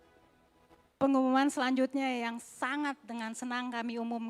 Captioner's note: speaking indonesian